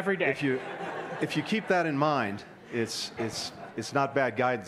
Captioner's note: laughter